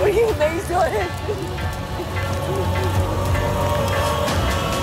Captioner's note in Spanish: Sollozos